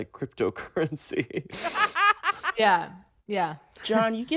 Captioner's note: laughter